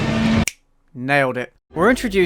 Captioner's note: snap